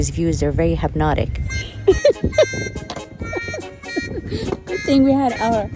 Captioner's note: laughs